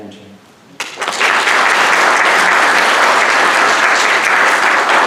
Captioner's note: audience applauding